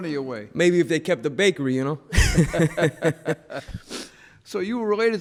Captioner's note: laughs